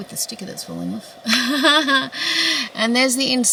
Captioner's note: laughs awkwardly